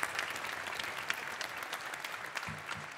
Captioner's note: applause